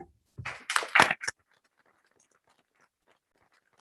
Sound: applauding

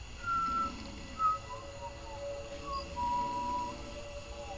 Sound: nervous whistling

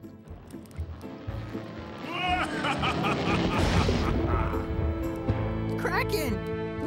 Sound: evil laugh

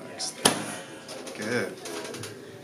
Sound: bench pops

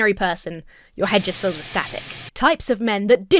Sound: static hisses

